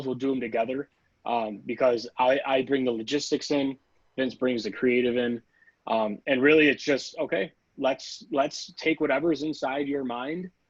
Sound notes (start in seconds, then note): none